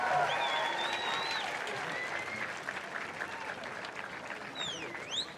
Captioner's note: cheering and applause